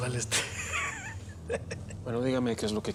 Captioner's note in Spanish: risas